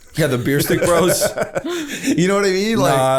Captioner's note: laughter